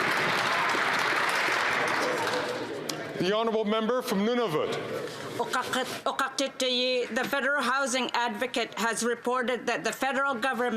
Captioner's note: some Applause